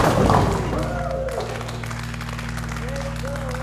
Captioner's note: ball rumbling; pins clattering; league applauding